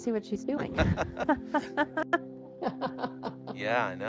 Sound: group laughs

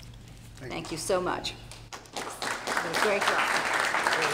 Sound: applause

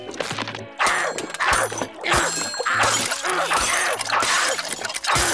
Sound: grunting

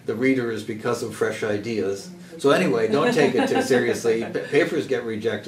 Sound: laugh

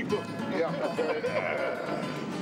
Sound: laughter

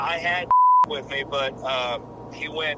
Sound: beep

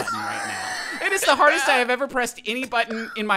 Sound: laughing

